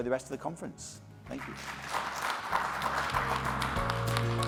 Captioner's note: audience applauds; upbeat music